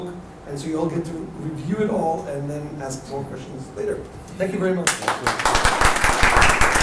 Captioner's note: applause